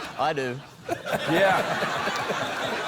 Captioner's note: cheering, applause